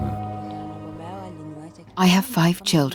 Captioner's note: speaking in non-English